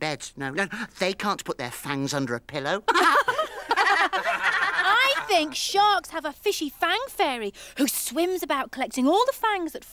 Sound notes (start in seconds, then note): 2.9 everyone laughs